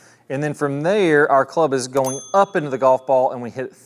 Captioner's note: bell dings